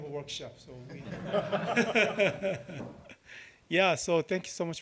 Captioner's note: laughter